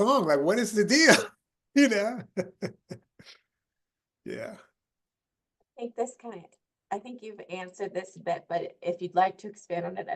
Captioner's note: laughing